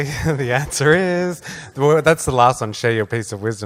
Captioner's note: laughs